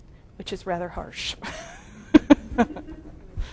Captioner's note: laughs